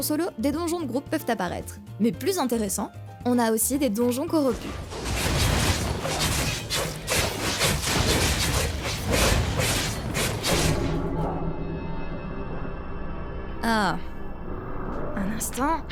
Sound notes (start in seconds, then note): 4.6 combat sound effects